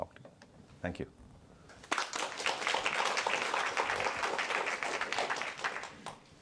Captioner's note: applause